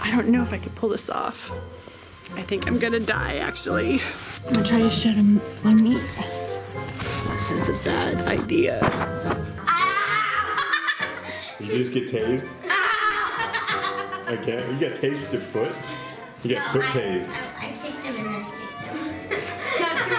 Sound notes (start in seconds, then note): 9.6 laughing; 12.8 screaming